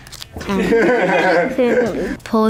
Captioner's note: laughter